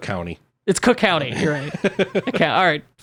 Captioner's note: laughs